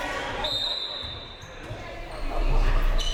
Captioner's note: whistle